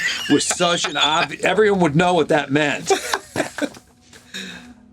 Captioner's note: laughs